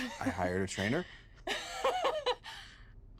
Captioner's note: laughs; both laughing